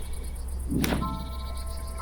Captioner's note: snap